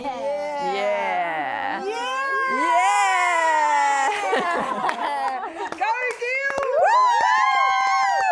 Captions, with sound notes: Yeah! Yeah! Yeah! *laughing* Go girls! Wooo!